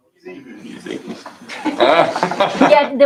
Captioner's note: laughter